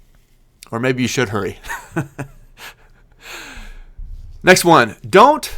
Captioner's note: laughing